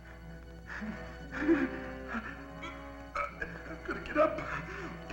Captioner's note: John groaning